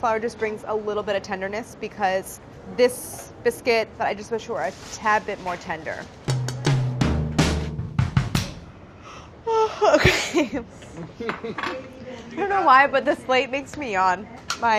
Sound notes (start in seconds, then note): 6.0 jazz percussion; 9.3 yawns